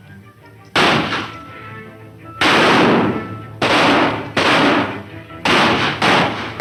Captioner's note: gunshots; reins metal hitting together; horse hoof beats